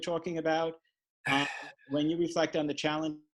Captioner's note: sighs